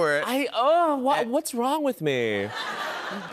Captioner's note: laughter